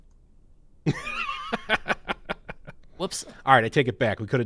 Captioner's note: laughs